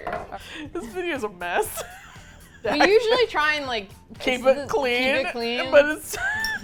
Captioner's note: laughs